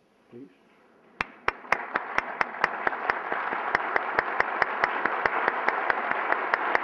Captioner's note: applause